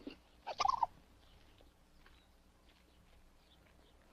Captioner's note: squirrel chatters